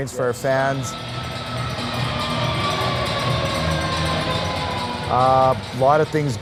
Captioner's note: goal Siren